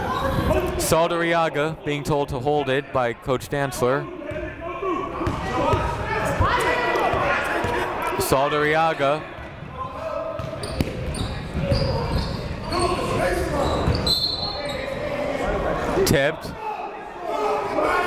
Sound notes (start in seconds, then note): 5.2 shouting; 13.9 whistle blowing